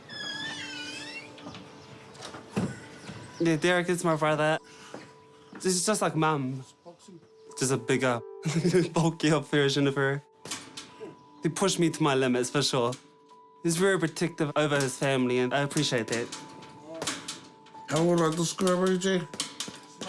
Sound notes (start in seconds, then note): 0.0 door hinges squeak; 8.4 laughs